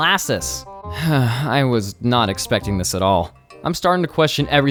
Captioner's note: sighs